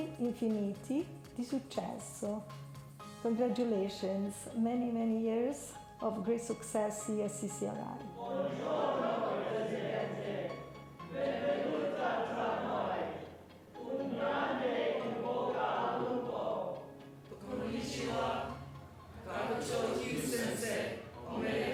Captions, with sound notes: Congratulations, many many years of great success here at CCRI. (students speak foreign language) (students speak foreign language)